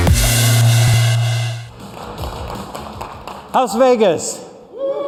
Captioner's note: applause; cheers and applause